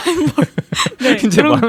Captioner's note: laughs